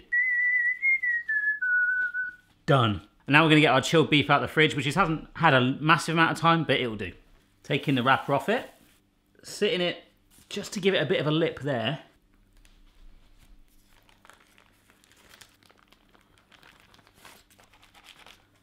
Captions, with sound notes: (whistles) Done. And now we're gonna get our chilled beef out of the fridge, which it hasn't had a massive amount of time, but it'll do. Taking the wrapper off it. Sitting it, just to give it a bit of a lip there. (parchment paper rustling)